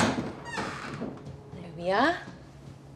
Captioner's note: door creaks open